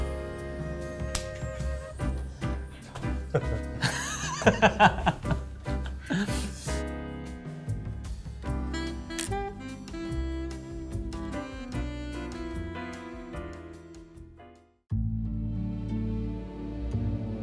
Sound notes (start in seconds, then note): 2.8 chuckles; 2.9 laughs; 14.9 soft music